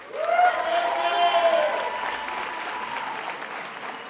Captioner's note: attendees applauding